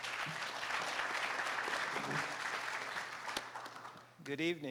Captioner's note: audience applauding